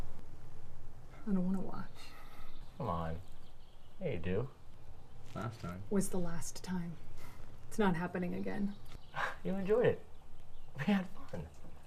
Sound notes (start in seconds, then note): 8.7 scoffing